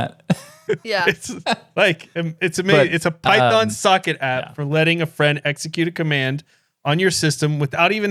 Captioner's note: laughing